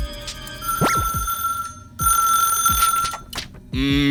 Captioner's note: ring ring~